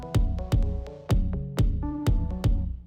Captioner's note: none